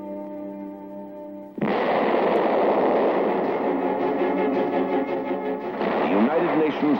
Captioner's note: explosions